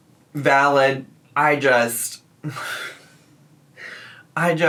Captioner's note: sighs loudly